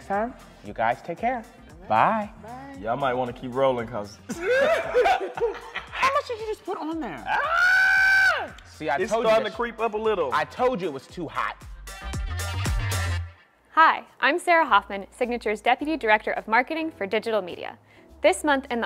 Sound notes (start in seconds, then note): 4.2 laughing; 7.2 screaming